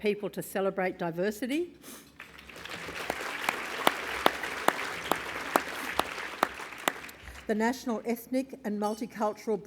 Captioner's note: applause